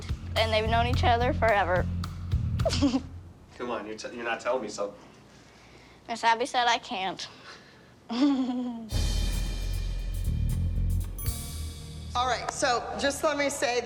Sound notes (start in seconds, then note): 2.6 laughs; 8.0 giggles